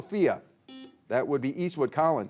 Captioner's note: buzzer beeping